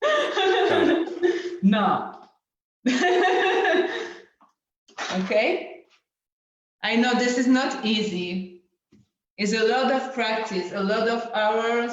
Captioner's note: laughs